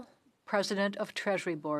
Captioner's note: speaking French